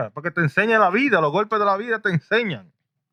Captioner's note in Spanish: Hablando en idioma extranjero